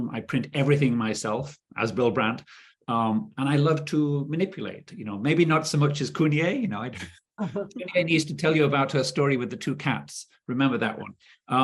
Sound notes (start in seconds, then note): 6.4 chuckling